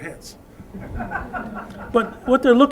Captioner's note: laughter